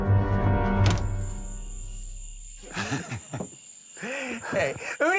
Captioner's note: crickets chirping